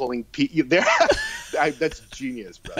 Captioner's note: laughing